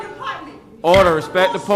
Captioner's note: sounding gavel